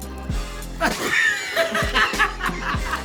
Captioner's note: wheezing